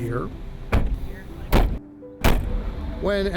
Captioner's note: car doors banging